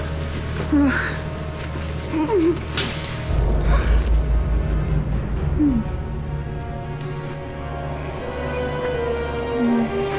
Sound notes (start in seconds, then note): 1.2 rebecca whimpering